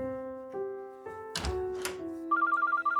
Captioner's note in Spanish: Suena el celular